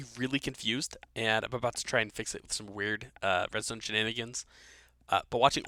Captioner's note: voiceover